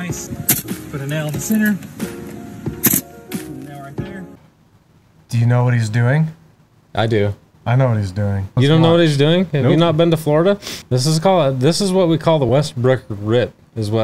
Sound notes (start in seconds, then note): 2.8 nail gun hissing